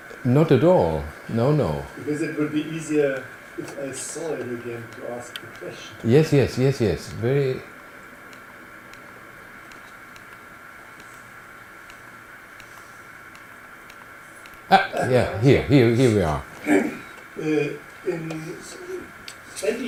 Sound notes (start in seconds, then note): 9.6 clicking through slides